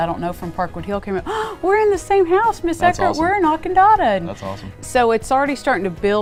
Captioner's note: gasp